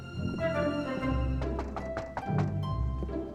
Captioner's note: knocks